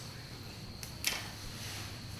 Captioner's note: pencil drops